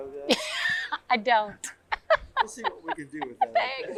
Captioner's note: laughs